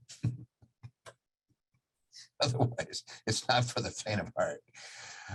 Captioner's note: laughs